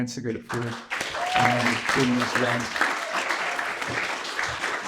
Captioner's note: applause